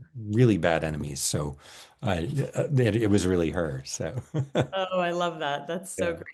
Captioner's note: laughs